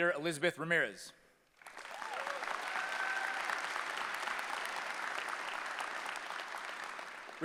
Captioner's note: applause